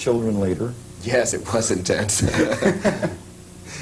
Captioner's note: laughter